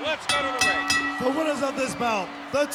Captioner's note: bell ringing